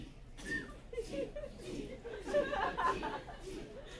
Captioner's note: whisper chant "Teeth teeth teeth teeth teeth..."